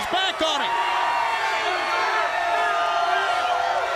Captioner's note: crowd cheering; crowd chatter